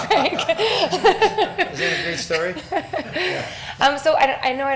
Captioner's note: laughs